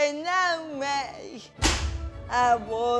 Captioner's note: thwack